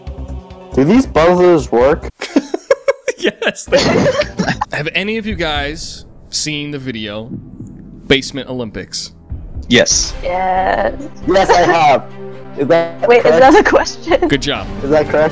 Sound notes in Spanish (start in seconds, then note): 9.7 varias voces